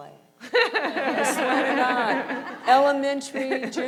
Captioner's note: crowd laughs